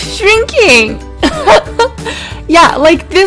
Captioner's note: laugh